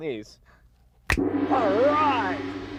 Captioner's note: finger snaps; gong